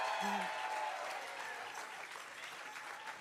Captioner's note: applause